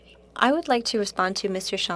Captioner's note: speaking French